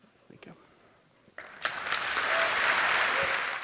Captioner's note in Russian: Аплодисменты